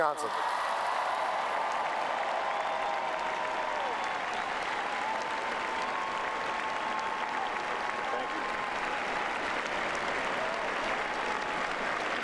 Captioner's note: applause